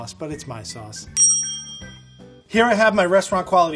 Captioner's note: bell dings